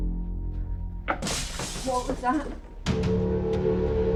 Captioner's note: metal crashes; chilling music